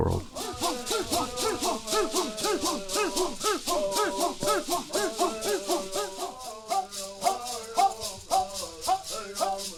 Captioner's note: bird Songs